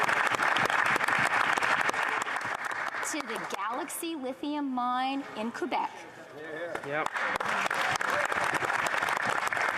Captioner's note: applause